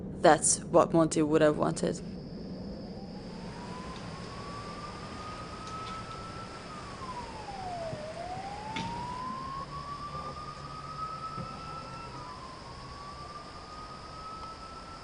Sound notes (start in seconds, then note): 4.1 siren wailing in distance